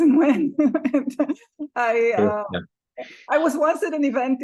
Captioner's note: laughs